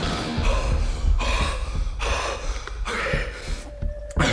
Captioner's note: Danny panting